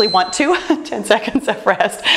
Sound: timer beeps

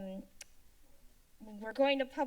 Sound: tongue clicking

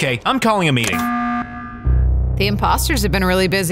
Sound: alarm buzzes

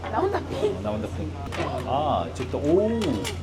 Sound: clink Clunk 🥘

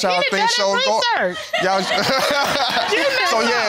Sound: all laughing

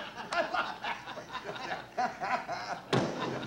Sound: laughter

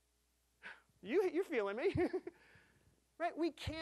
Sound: chuckling

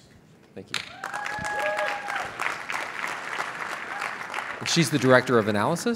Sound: audience applauding

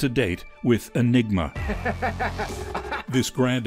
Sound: laughs

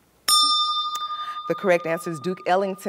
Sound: bell rings, time expires

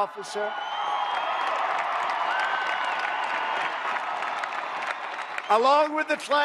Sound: applause

